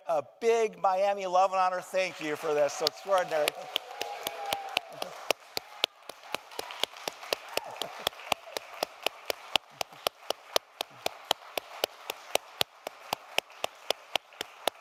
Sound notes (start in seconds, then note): 2.2 clapping